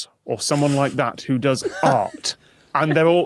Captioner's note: crack up